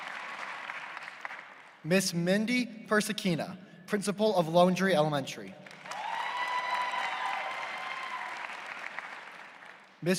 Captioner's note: applause